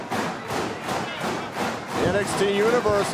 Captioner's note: fans chanting